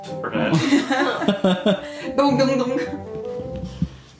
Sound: laughing

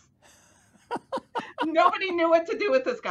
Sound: laughing

